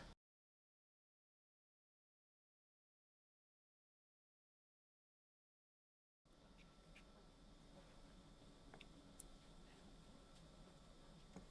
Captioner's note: silence